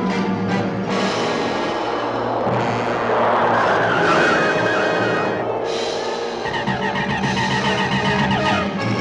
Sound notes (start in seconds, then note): 3.6 tires screeching; 6.7 zapping